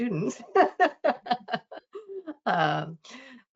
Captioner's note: laughing